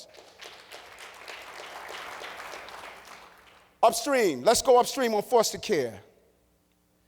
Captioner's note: applause